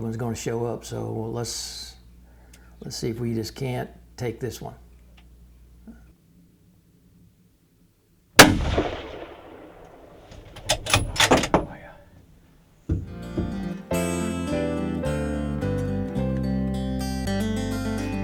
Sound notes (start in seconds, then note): 8.4 rifle fire cracking; 8.4 bolt snapping; 12.9 light acoustic music